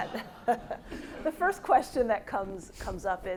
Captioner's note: audience laughing